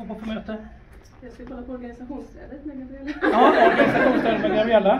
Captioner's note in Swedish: Skratt